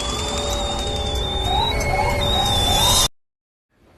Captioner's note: sirens